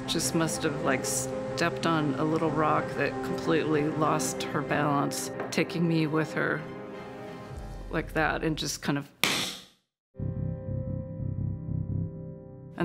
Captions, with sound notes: and the horse just must have stepped on a little rock that completely lost her balance, taking me with her, like that, and just kind of (slaps). (foreboding music)